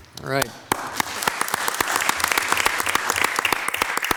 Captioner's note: group applauds; claps